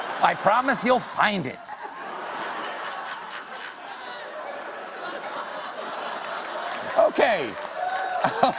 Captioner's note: laughter